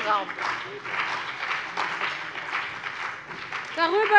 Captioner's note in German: Beifall bei der CDU und dem BÜNDNIS 90/DIE GRÜNEN